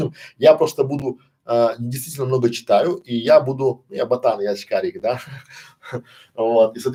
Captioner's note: Смеется